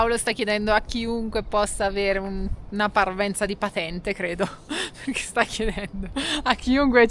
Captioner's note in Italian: risate